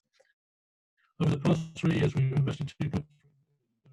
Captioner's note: audio distorts 51.09